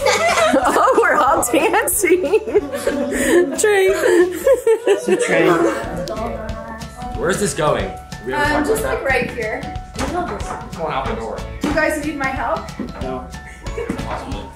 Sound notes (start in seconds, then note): 0.0 laughs; 2.9 group laughs; 4.5 laughs; 12.6 upbeat music; 14.3 mom chuckles